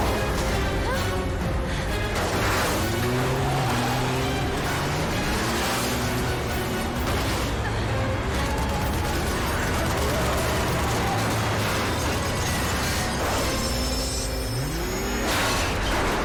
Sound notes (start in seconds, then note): 8.0 gunfire